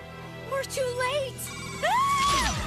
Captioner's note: screams